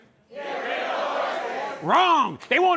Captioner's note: crowd